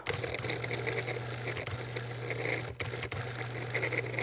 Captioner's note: blender buzzing